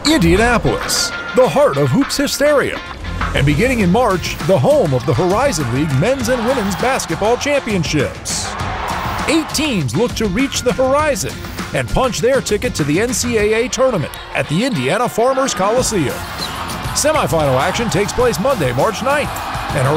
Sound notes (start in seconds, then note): 8.3 crowd cheers